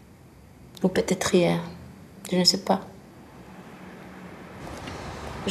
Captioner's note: in french